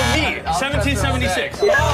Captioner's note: buzzing